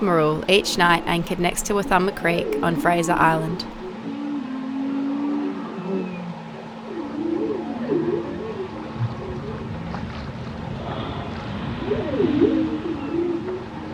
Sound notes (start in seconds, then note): 3.8 whale calls